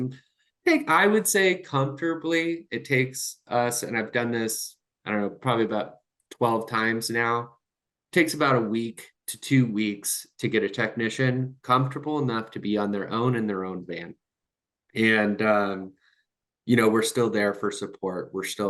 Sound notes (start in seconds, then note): none